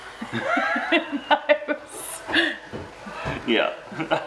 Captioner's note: laughs